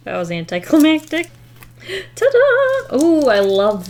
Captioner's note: gasps